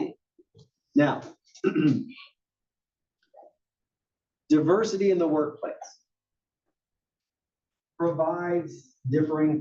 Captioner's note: cough